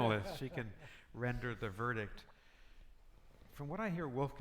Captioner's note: panelists laughing